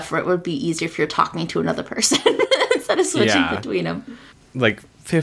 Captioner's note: laughs